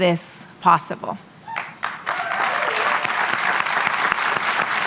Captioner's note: applause